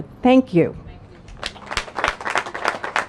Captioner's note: applause